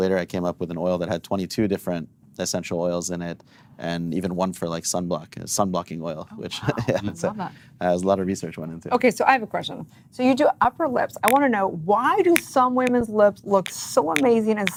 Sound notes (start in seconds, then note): 6.3 laughs